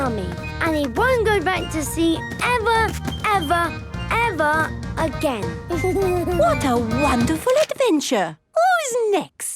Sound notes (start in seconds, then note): 5.3 Danny giggles